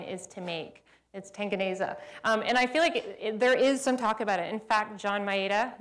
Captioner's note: speaking swahili